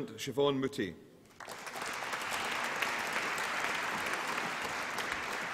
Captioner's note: applause